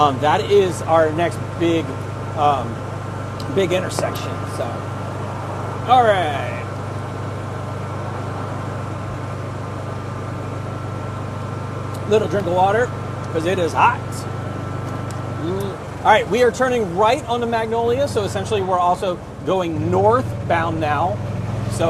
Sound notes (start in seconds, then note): 7.7 cart purring